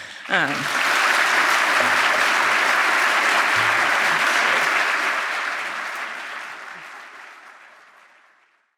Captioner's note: audience applauding